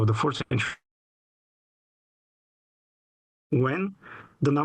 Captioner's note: audio cuts